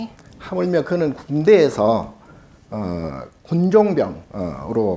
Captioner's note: speaking Korean